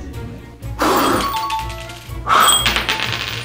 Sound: air blowing and chimes; blowing and coin clattering

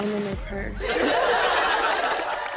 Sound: laughter, cheers and applause

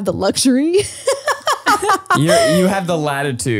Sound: laughs

